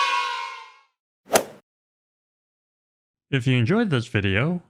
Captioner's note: kids cheering sound effect; golf swing sound effect